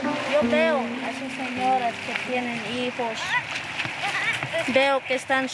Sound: speaking in foreign language

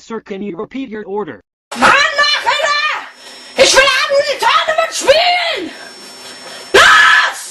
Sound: yelling

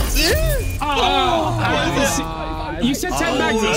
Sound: everyone groaning

